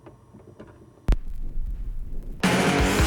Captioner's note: needle drops on record; loud rock music plays